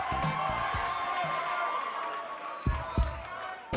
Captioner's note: cheers and applause